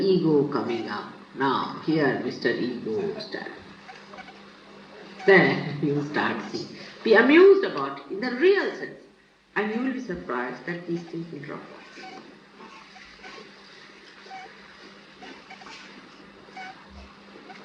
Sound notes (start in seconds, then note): 3.0 laughter; 5.2 Shri Mataji laughs